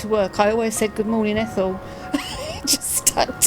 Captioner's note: laughs